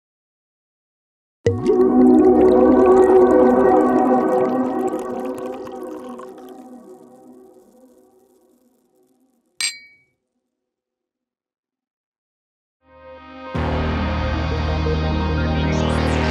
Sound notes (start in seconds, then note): 1.6 mysterious music; 9.6 glass clinking; 13.5 mysterious music